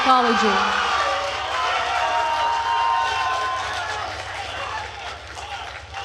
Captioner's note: attendees cheering and applauding